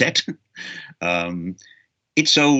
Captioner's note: chuckles